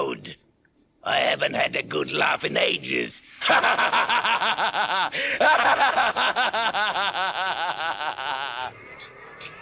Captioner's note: Gatekeeper laughs maniacally